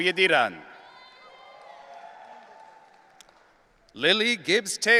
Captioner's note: audience cheering